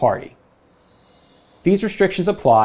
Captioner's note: graphics whooshing